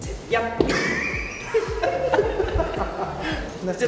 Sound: bursts out laughing

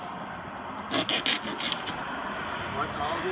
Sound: cutting

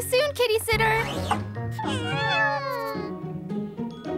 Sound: meowing; laughing

